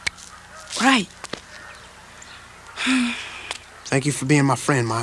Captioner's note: sigh